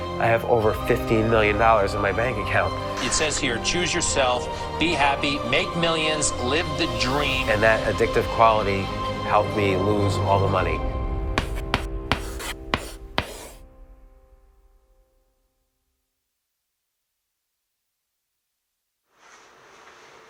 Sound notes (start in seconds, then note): 11.3 chalk scraps